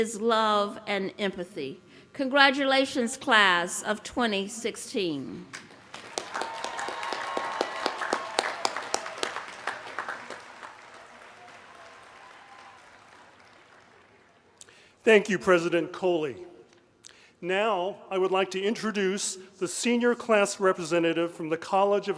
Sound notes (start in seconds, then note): 9.2 applause